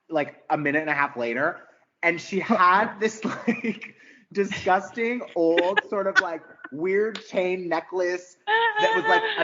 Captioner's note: laughing